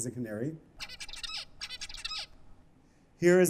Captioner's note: chirping